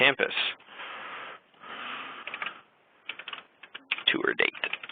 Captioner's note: typing